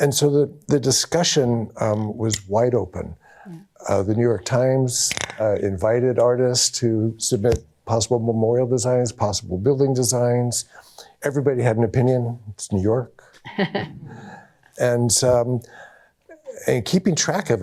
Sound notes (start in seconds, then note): 13.4 chuckles